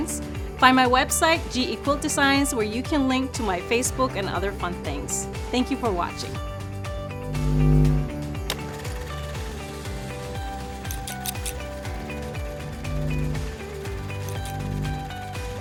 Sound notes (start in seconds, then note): 7.2 static buzzing; 8.7 camera film rolling; 10.9 scissors snipping; 11.6 static buzzing